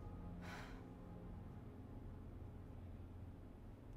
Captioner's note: Karen sighs